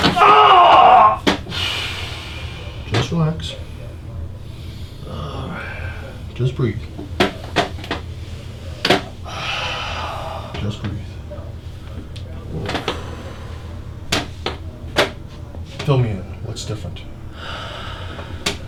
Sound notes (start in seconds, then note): 0.0 cracking spine; 8.9 breathing heavily